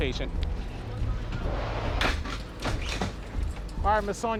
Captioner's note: stretcher clacking